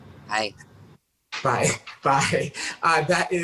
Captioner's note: chuckles